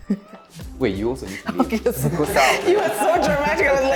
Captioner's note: laughs